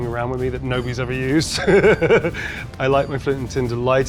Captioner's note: chuckles